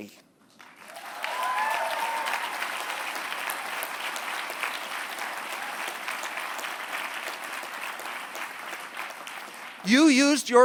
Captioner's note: applause